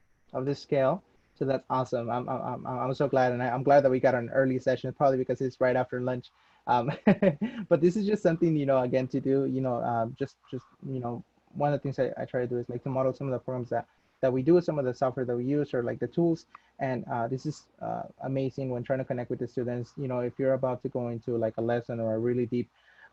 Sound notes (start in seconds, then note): 6.8 laugh